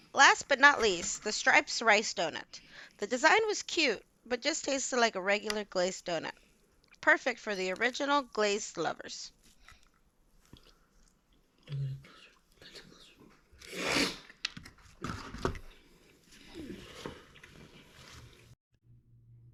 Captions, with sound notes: Last but not least the stripes rice donut. The design was cute, but just tasted like a glazed donut Perfect for the original glazed lovers *big sniff*